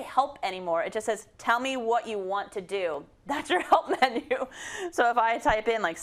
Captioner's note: laugh